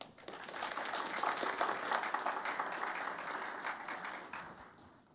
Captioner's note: audience clapping